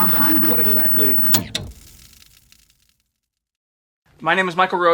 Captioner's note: TV clicking